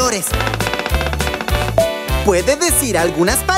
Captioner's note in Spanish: Sonido de pájaro carpintero